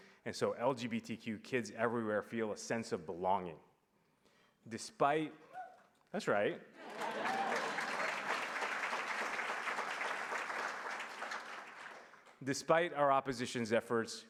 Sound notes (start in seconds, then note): 6.8 applause